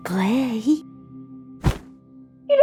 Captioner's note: thud